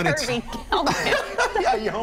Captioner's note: laughter